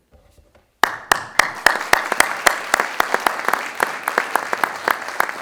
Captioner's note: audience clapping